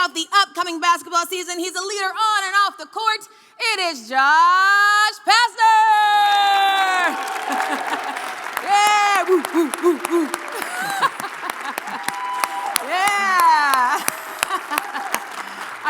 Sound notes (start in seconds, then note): 5.7 shouting; 6.8 audience cheering; 7.0 laughing; 8.4 howling; 14.0 clapping